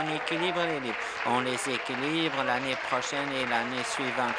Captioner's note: applause